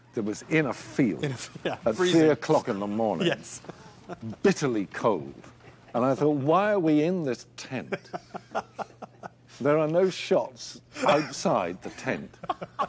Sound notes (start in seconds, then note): 1.1 laughing; 7.8 laughing